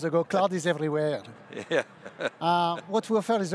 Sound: laughs

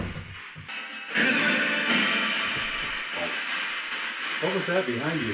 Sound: radio noise hissing

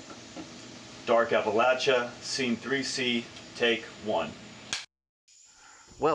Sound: slate claps

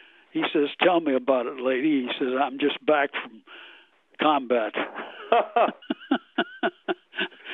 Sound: both laugh

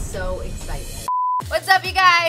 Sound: screen beeps

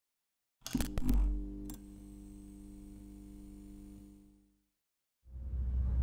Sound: electric static buzzing

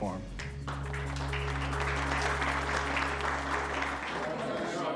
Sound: applause

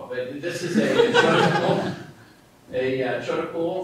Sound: laughter

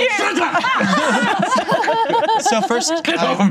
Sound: yells

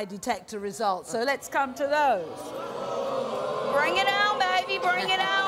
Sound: audience boos

